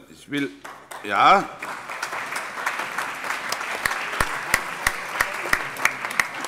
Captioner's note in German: Allgemeiner Beifall